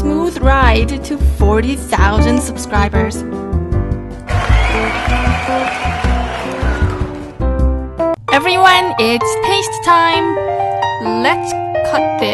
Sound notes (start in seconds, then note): 4.2 cheers, the candles are blown out completely